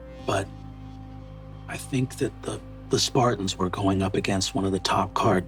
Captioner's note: none